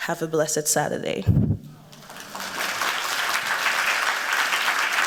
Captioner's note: applause